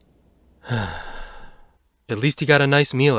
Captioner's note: exhale